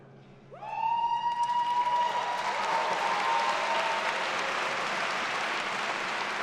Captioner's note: attendees cheering and applauding